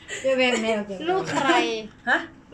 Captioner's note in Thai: เสียงหัวเราะ